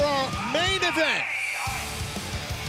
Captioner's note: bell